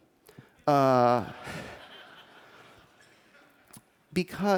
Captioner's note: laughter